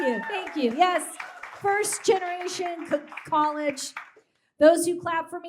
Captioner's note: audience claps